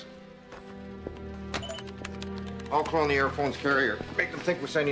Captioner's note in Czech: Pípání